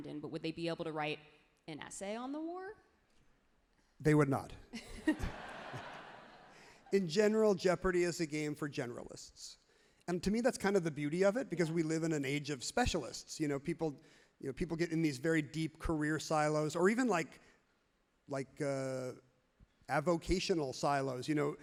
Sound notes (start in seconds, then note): 4.9 everyone laughs happily